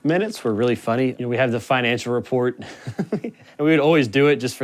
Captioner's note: laughs